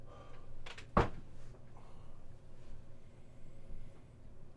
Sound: chair taps floor

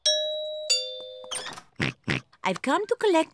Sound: oinks

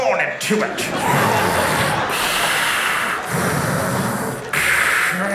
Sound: deep suction sounds

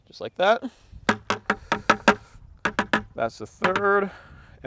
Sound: loud tapping

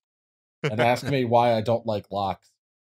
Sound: laughter

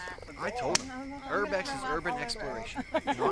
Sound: more campfire chatter

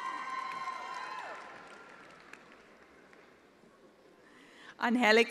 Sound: attendees applauding

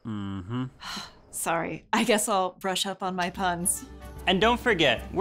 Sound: sighs

